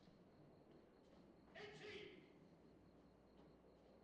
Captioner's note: yelling in turkish